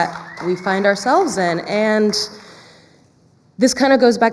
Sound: clapping and cheering

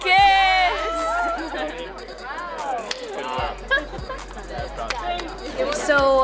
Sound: cast giggling, congratulating Shelby

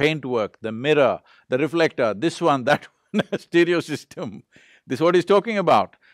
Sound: laughs

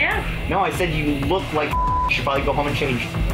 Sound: beeping

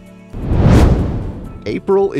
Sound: whoosh

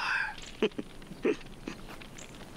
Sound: laughs

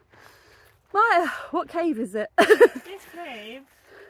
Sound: laughing

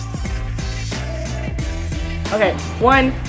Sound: squeaking noise

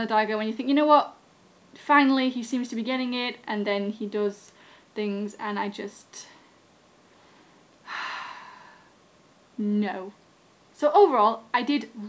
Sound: sigh

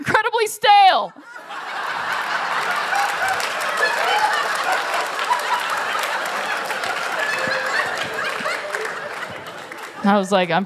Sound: laughter

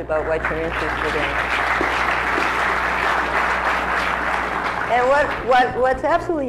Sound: applause

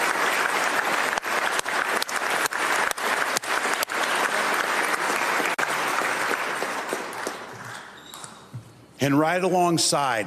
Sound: continued applause

